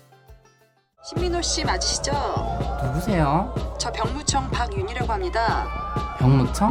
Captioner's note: people speaking in Korean